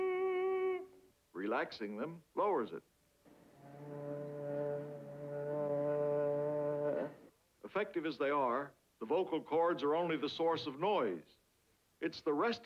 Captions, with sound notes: Relaxing them lowers it. [low pitched humming] Effective as they are, the vocal cords are only the source of noise. It's the rest of the speech mechanism